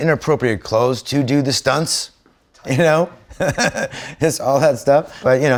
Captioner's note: chuckles